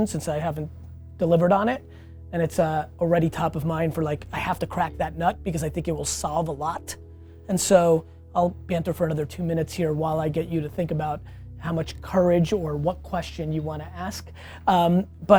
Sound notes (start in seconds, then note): none